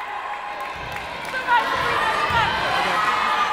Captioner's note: yelling